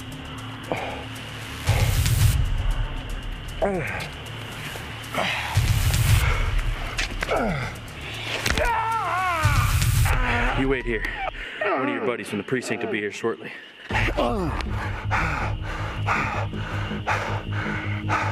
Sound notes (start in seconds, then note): 3.6 Shepherd groans; 8.2 arm snaps; 8.6 Shepherd screams; 15.1 Shepherd panting